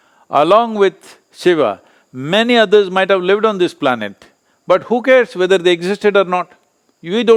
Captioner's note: none